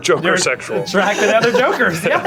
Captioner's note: laughing